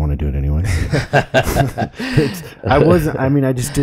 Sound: laughs

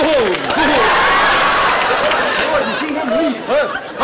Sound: audience laughter

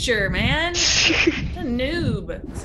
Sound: laugh

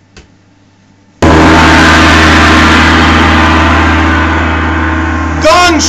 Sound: gong!!

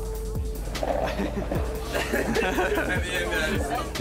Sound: laughter

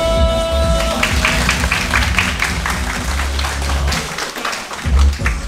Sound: applause

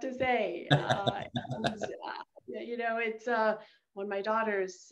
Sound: laughing

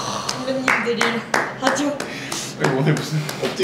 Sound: clap clap

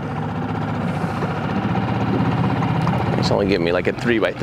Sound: motor accelerating

